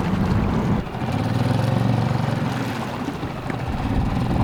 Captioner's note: motor humming